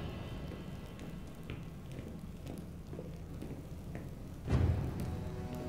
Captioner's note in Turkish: Adım sesleri